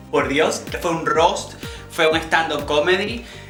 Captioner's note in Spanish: none